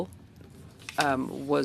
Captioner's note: speaking French